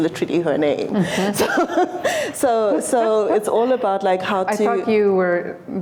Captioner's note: laughter